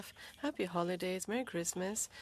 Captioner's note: speaking French